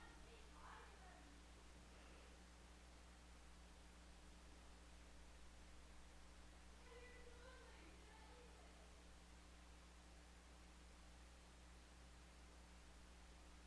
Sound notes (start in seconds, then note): 0.0 woman yelling in the distance; 6.8 woman yelling